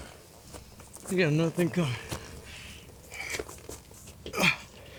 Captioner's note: grunts